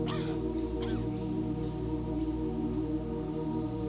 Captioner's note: Abby coughs